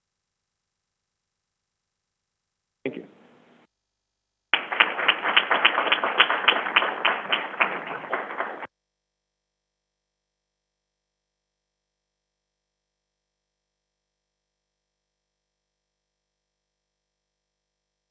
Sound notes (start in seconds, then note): 4.5 crowd applauding